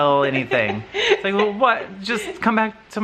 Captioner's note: laughs